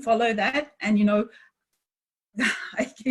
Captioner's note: laughs